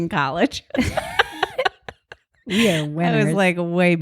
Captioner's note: both laugh